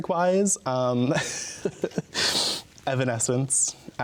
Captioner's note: laughs